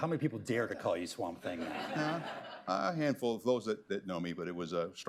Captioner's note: laughter